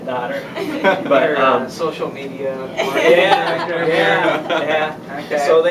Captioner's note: laughter; laughter